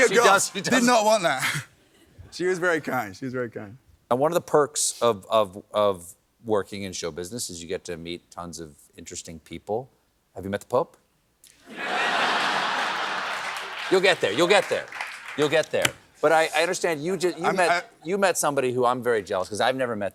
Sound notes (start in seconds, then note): 11.6 laughter